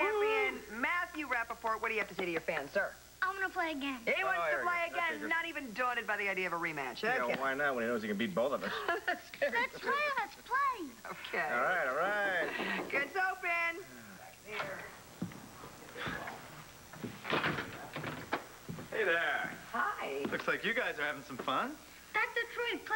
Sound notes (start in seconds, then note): 13.2 knock on door